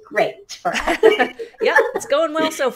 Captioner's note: laughter